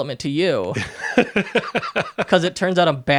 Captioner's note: laughing